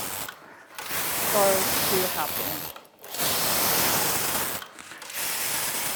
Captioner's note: grinding noises